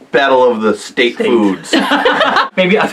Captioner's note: laughing